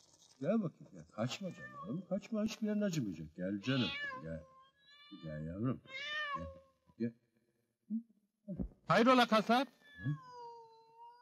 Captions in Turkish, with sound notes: Kaçma! Kaçma! Gel canım! [KEDİ MİYAVLAMA SESİ] Hayrola kasap?